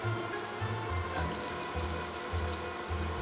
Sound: frying

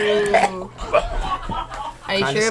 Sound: both gagging

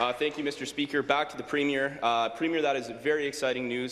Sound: applause

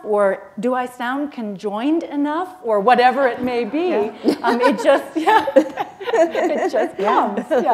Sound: chuckle

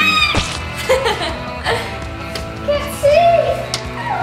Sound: laughing

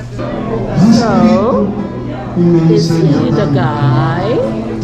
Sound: on TV

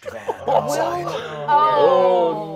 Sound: players laughing

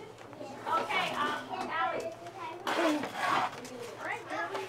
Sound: background chatter

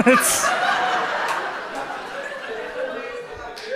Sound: audience laughs

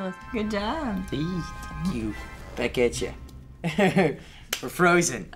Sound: chuckles

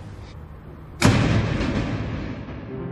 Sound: door closing

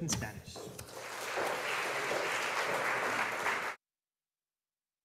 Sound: audience applauding

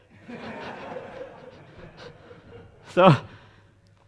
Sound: audience laughing

